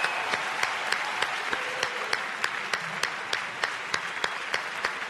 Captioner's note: audience cheers and applauds